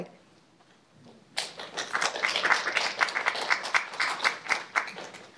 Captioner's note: applause